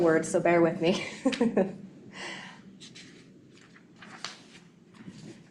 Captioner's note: laughing